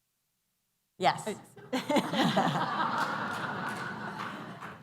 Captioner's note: laughter